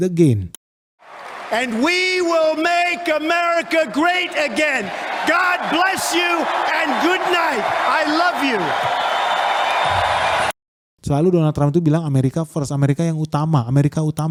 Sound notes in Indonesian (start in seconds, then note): 9.7 bersorak